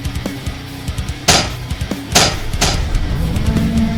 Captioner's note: intense rock music; steps clanking; tentacle beast blares